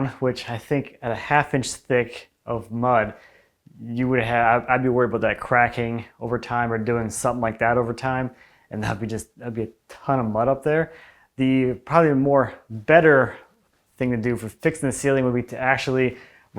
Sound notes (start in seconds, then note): none